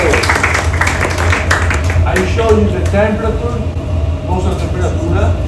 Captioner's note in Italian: applauso